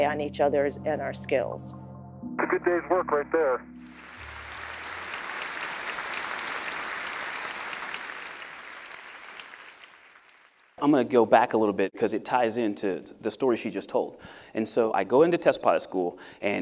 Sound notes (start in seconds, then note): 3.9 applause